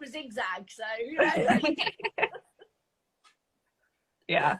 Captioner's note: both laugh